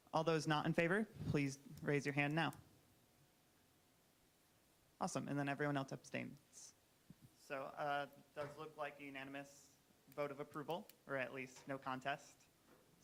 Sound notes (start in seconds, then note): none